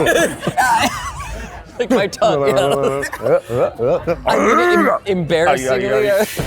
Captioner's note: vocalizing